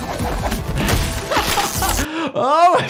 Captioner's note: laughs